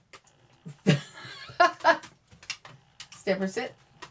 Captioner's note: laughs